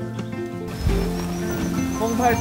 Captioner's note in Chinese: 起大風